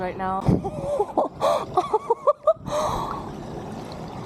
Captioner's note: hysteric laughter